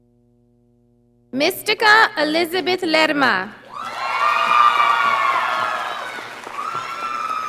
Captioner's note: audience applauding